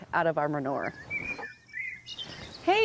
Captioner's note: birds chirping